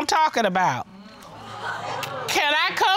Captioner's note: audience gasping